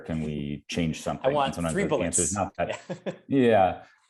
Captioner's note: laughs